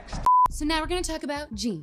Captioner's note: electronic beeping